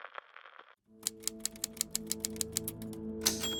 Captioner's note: typewriter clicking